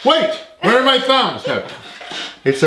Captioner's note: laughing